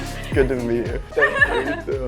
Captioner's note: laughs